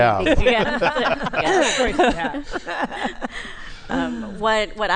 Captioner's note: laughter